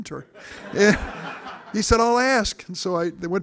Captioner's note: audience laughing